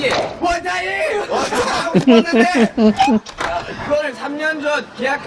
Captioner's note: laugh